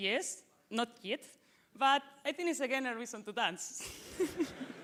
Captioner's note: laughter